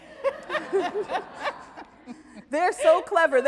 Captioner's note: audience laughs